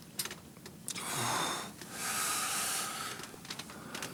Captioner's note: John groans